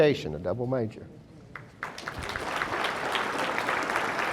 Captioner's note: audience applauding